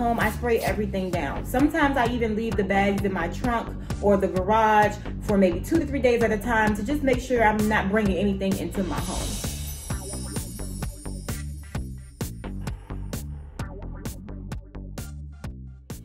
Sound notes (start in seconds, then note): 9.0 fading sparkling sound; 9.4 funky upbeat music